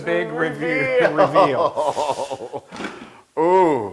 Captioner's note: laugh